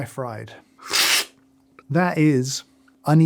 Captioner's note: slurping